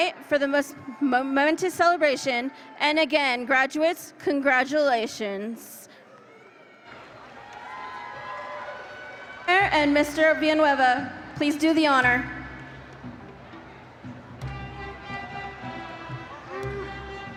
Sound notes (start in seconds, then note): 6.2 audience cheers; 14.7 band music